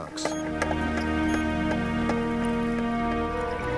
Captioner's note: box rattles